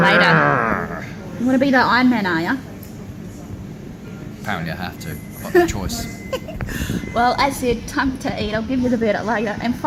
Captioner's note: laughing